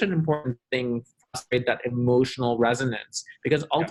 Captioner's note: voice muffled